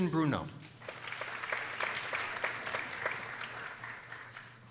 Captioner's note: people applauding